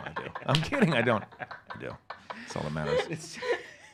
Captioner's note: laughs